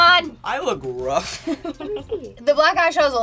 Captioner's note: laughing